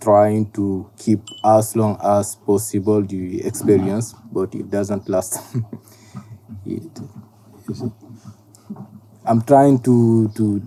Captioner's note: laughs